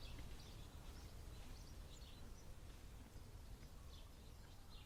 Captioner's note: birds chirping